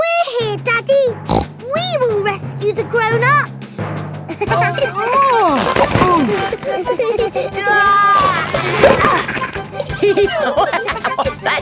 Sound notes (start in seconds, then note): 1.2 snorts; 4.4 giggling; 5.4 grunting; 7.5 giggling; 10.2 laughing